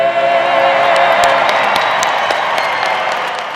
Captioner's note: applause